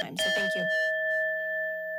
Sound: timer dings

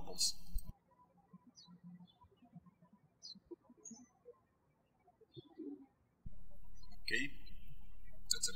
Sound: birds chirping

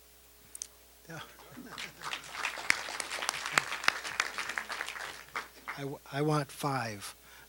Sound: applause

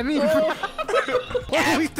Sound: all laughing

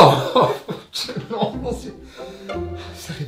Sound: happy laughter

